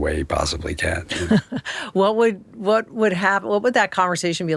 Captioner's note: laughing